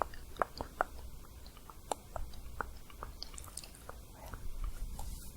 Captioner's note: soft tongue clicking